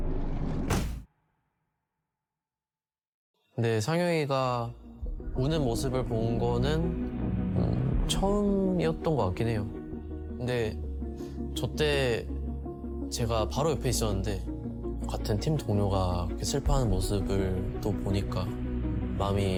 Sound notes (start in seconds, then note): 0.1 door slams shut; 3.6 'Bang' speaking Korean